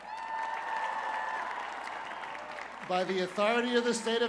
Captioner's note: cheers and applause